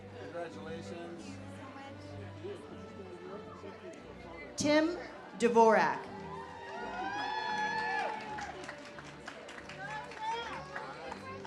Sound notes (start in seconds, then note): 6.2 audience cheers